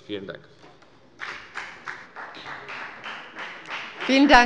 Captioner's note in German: Beifall bei der FDP